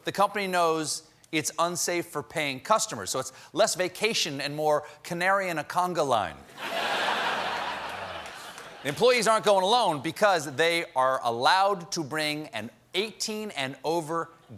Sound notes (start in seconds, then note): 9.0 laughter